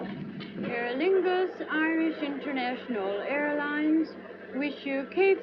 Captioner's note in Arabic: مكبر الصوت